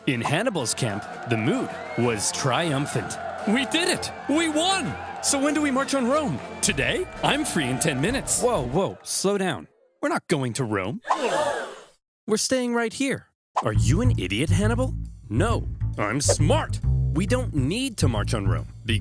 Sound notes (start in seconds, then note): 11.1 soldiers gasping